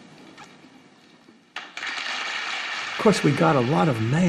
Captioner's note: applause